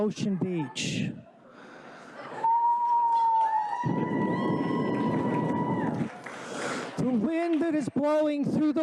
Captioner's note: applause